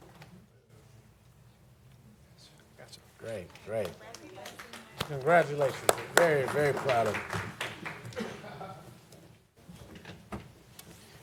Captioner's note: applause